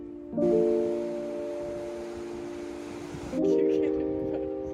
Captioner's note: waves crashing